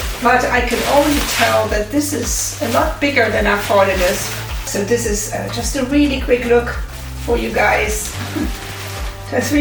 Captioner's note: laughs